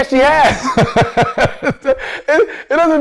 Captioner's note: laughs